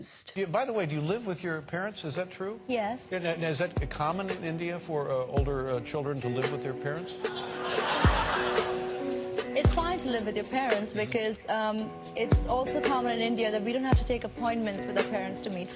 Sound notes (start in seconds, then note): 7.2 crowd laughs